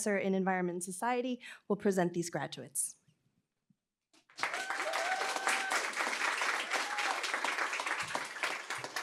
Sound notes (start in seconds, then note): 4.3 cheering, applause